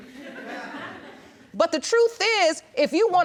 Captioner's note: audience chuckling